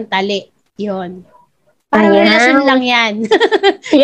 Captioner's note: laughs